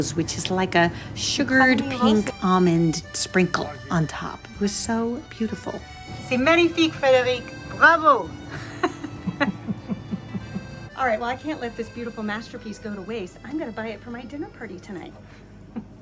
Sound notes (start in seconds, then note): 6.4 speaking in French; 8.4 laughing